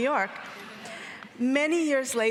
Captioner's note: audience laughing